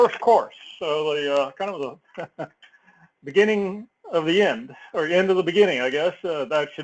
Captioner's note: laugh